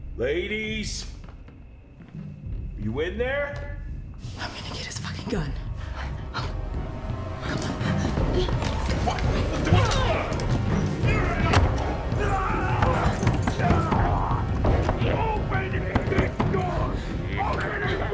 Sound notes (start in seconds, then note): 6.5 tense music; 9.8 Mr. Machen grunts; 12.2 Mr. Machen screaming